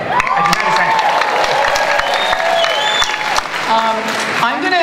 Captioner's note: audience cheering and applause